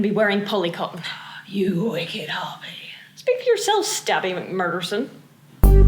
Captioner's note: le gasp